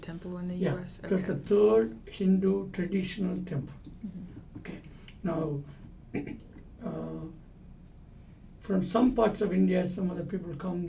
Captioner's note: clears throat